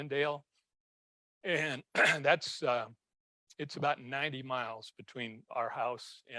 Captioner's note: clears throat